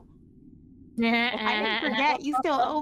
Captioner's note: laughter